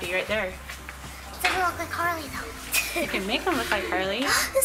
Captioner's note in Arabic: يضحك